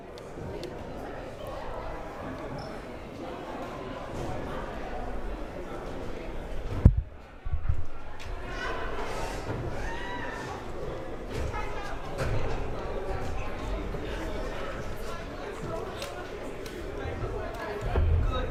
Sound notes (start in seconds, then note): 0.6 crowd murmuring